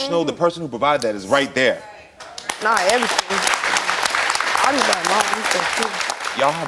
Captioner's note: drowned out by crowd applauding